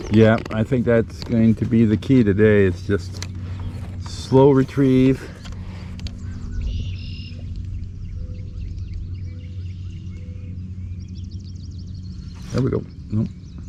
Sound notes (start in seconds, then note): 6.5 birds chirping